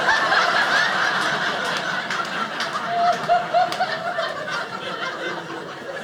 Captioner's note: audience laughing